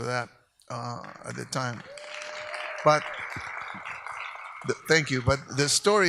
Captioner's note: audience applauds